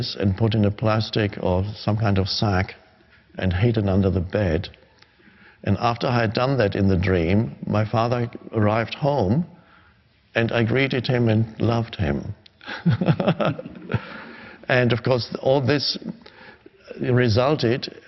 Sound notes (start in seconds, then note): 12.6 laughing